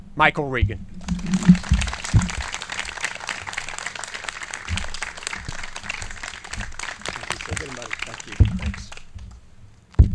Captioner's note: clapping